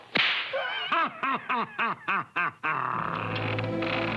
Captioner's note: laughing